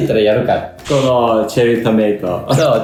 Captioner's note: laughs